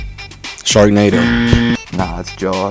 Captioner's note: buzzer buzzes